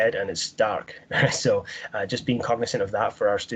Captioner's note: laughing